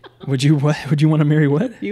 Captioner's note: laughs